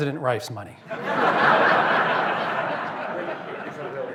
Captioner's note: laughter